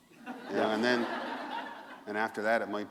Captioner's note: laughter